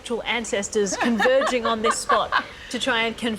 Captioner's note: laughs